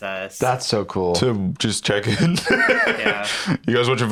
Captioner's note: laughs